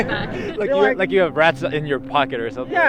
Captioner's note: laughter